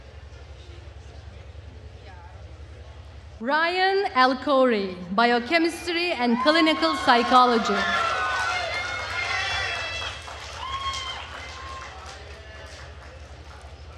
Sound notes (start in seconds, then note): 7.7 attendees cheering and applauding